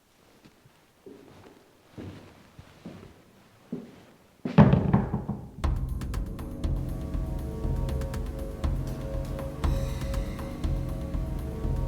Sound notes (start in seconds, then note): 4.5 door closes; 5.6 suspenseful music